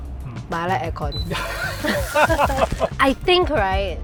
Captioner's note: laughter